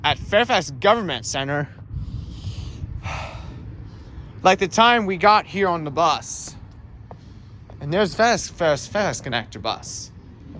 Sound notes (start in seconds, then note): 1.9 exhales